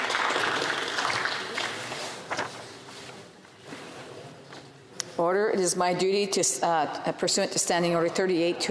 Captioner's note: applause